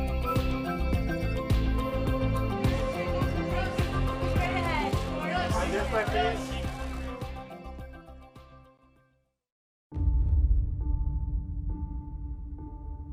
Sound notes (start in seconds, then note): 2.8 people murmuring; 10.9 soft music